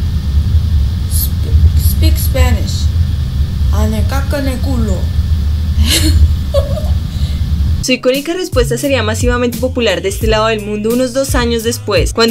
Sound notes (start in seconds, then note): 6.5 laughs Cute